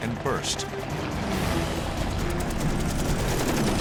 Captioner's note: gunshots